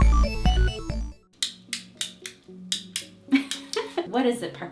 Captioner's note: intro music; clicking